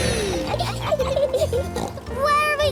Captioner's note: laughs and snorts